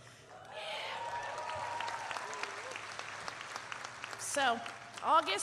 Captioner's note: audience cheering and applauding